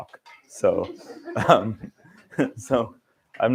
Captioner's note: laughter